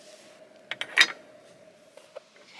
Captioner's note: clunk